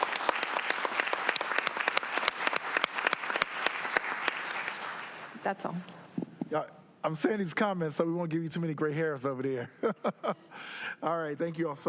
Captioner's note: applause